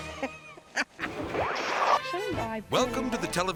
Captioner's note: laughing; slides swooshing